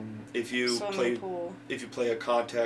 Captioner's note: none